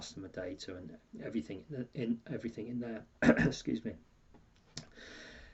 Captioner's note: clears throat